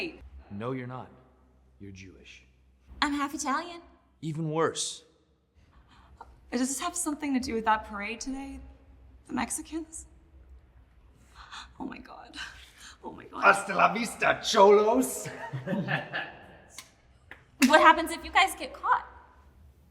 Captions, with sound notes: - No you're not, you're Jewish. - I'm half Italian. - Even worse. - Does this have something to do with that parade today, the Mexicans? Oh my God, oh my God. (Gavin speaking in foreign language) (both laughing) - What happens if you guys get caught?